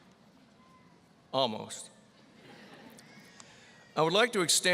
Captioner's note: audience laughing